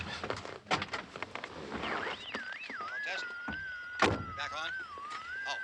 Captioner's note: radio: frequency squealing